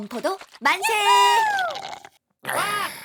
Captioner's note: ⊞ sipping loudly